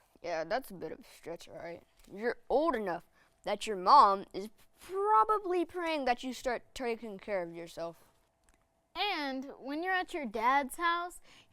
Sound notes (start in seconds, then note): none